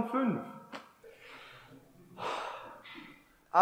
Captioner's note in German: Wichtel seufzt